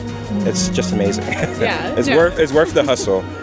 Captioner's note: laughs